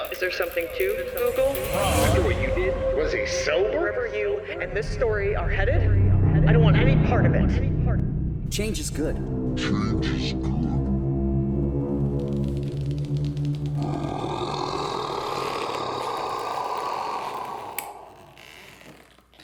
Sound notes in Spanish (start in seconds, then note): 12.4 música dramática; 13.6 gruñendo demonio